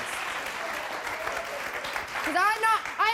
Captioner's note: audience clapping